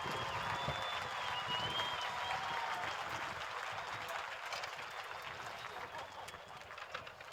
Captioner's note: applause